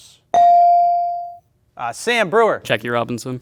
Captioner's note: bell ring